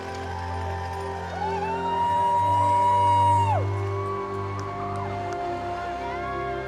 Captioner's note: light orchestral music; people cheering